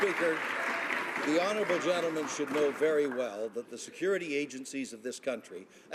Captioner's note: some Applause